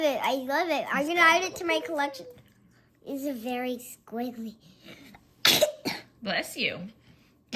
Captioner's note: sneezes